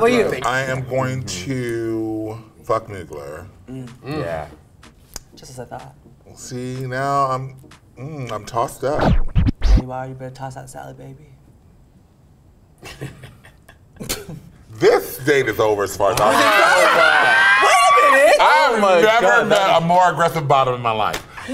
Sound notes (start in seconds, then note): 8.8 record scratch; 12.8 Priyanka laughs; 16.2 group screams